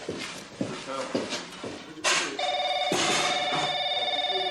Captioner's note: telephone rings